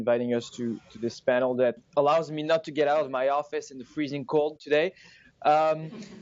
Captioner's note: laughter